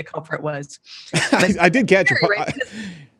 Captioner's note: laughs